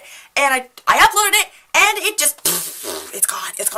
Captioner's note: pfhhh